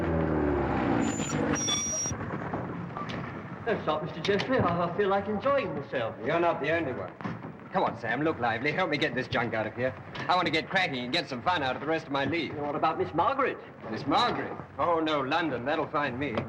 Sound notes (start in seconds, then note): 0.0 engines stops